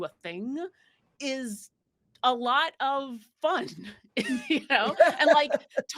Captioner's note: actors giggling